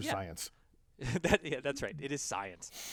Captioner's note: laugh